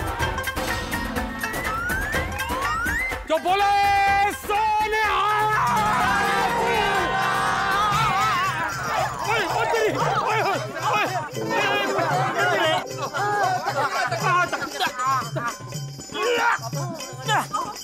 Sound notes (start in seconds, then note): 0.1 confusing music plays; 10.7 indistinct chatter